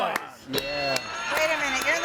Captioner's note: bell dings; audience applauds